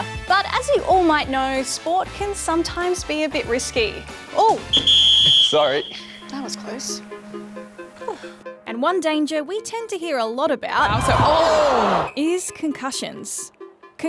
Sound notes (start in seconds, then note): 4.7 whistle